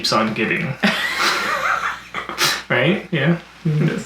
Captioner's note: both laugh